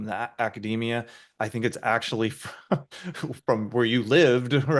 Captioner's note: laughs